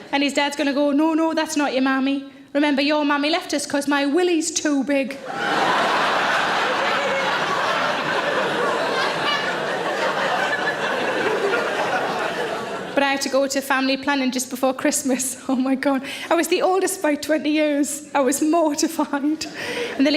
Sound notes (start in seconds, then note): 5.2 audience laughing